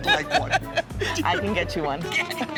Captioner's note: laughing